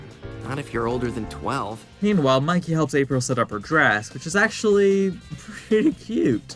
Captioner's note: laugh